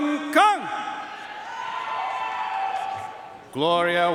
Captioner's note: audience cheering and applauding